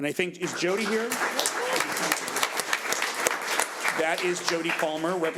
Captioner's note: audience applauds